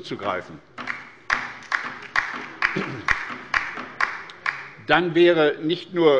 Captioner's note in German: Beifall bei der LINKEN